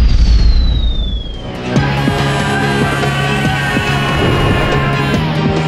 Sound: Mechamato screaming

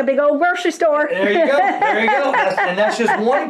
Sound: laughs loudly

